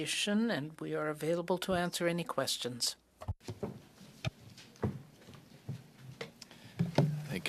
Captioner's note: speaking French